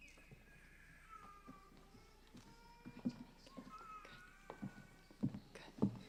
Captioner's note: baby crying in audience